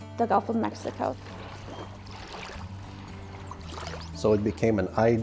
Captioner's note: water splashing